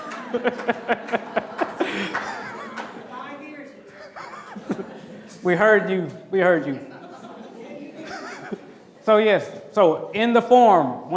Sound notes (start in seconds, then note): 0.0 clapping; 0.0 laughing; 6.8 laughs